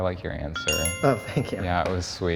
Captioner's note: bell chimes